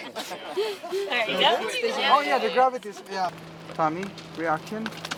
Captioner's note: crew chattering